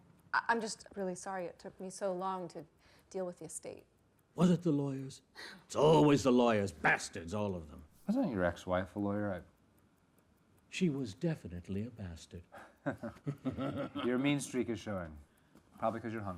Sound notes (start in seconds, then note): 12.5 chuckling; 12.6 Marcus laughing